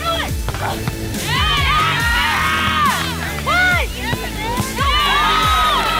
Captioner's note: teammates yelling to one another